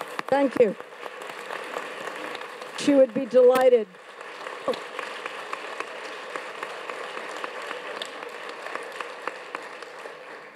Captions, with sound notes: Thank you, she would be delighted. (audience claps)